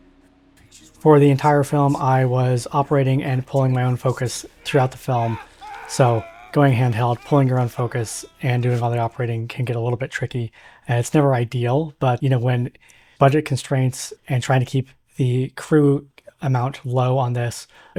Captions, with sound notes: The picture's worth a thousand words. And I'm a goddamn artist. (Screaming) bit tricky. And it's never ideal but you know when... budget constraints and trying to keep the crew amount low on this.